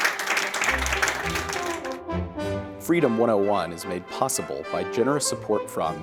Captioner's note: applause